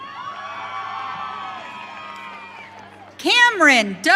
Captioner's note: audience cheering